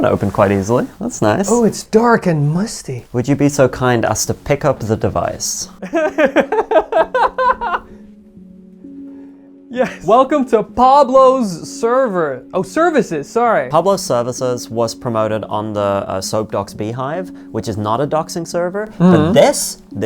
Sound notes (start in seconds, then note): 5.8 laughing